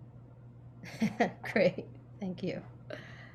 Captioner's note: chuckles